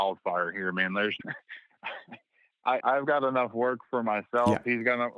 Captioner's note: laughter